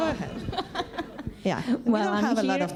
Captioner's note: laughs